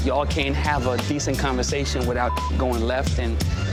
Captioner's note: beep